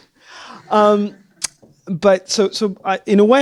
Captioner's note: laughter